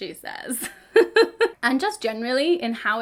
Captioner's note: woman laughs